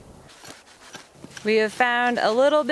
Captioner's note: sounds of digging